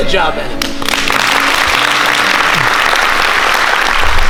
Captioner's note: applause